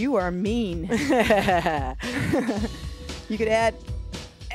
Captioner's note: both laugh